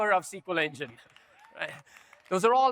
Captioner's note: audience members cheer